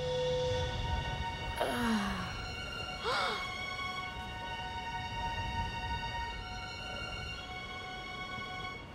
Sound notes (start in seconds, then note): 1.6 moaning; 3.0 gasping